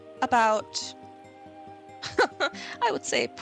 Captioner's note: laughs